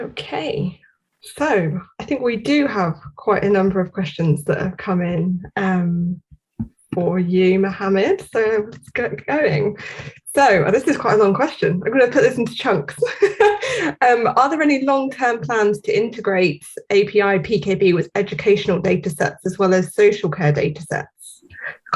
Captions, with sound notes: - Okay. So, I think we do have quite a number of questions that have come in for you Mohammad. So, let's get going. Well, this is quite a long question. I'm going to put this into chunks. (laughs) "Are there any long term plans to integrate API PKB with educational data sets as well as social care data sets?